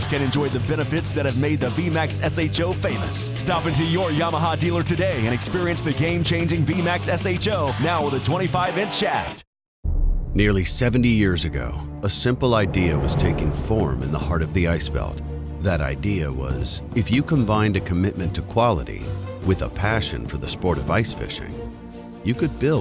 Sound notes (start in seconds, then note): 10.8 voiceover